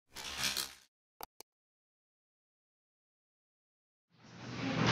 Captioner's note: electrical buzzing, clicking